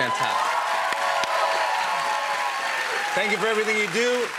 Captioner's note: cheers and applause